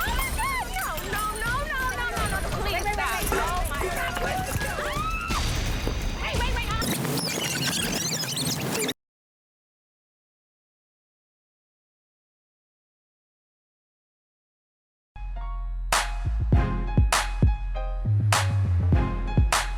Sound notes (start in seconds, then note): 0.0 glass shattering; 4.6 woman screaming; 10.6 film squealing; 15.9 upbeat hip-hop music